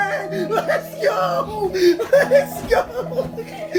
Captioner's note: chuckling